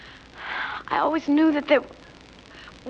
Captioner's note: sighs